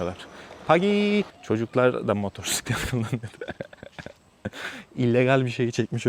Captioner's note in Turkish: kahkaha